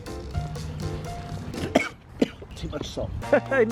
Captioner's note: coughs